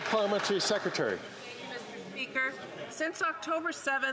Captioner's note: some Applause